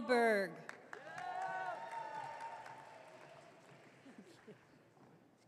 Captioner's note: audience cheering